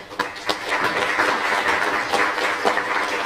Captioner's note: applause